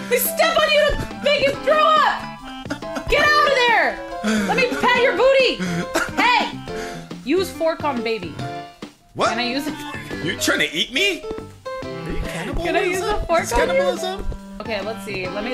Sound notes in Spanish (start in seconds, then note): 5.1 Sigue riendo